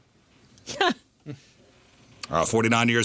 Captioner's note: laughing